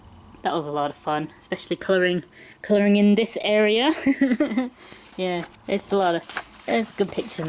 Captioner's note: laughs